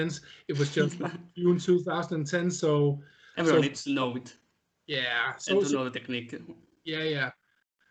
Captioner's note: laughing